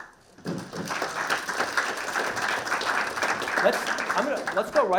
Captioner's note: all clapping